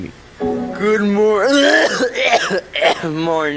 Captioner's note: coughing